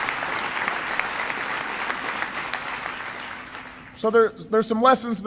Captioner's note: applause